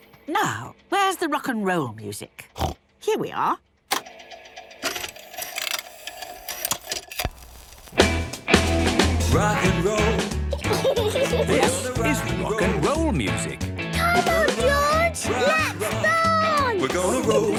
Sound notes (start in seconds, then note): 3.9 clicks, whirring